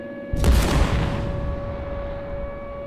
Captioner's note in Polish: odgłos wystrzału